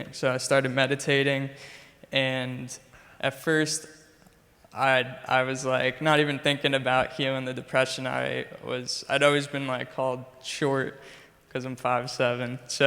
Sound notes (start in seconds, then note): none